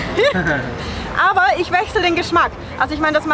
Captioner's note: laughter